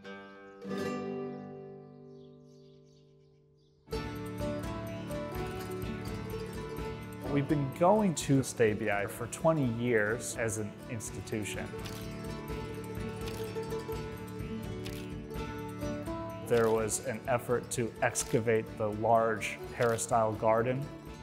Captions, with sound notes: (light upbeat music) We've been going to Stabiae for 20 years as an institution. (camera clicking) There was an effort to excavate the large peristyle garden.